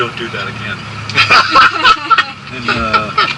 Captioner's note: laughter